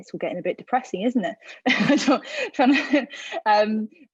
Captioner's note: laughs